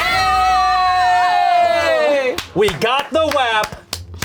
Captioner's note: all cheer